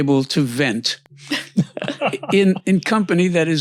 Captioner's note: laughs